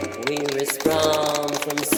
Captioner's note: applause